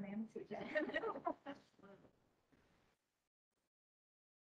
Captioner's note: nurses laughing